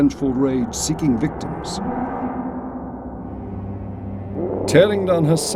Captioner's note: monster roaring